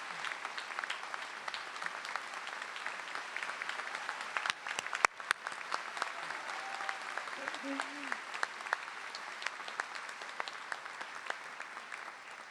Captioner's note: cheers and applause